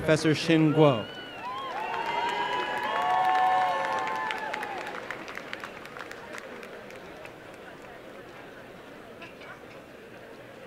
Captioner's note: applause and cheering